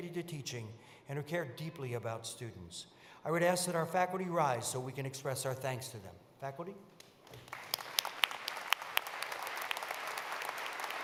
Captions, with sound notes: to teaching and who care deeply about students. I would ask that our faculty rise so we can express our thanks to them. Faculty? [APPLAUSE]